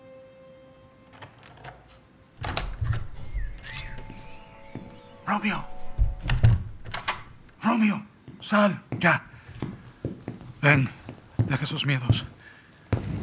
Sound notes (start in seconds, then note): 2.4 door opening; 2.4 birdsong; 2.8 footsteps; 6.1 door closing